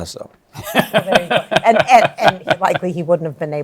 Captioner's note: laughs